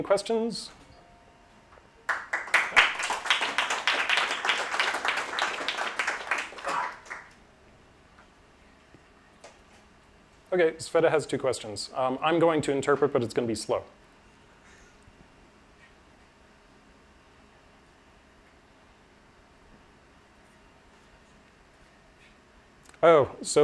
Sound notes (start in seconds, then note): 7.5 applause